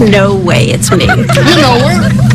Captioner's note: friends laughing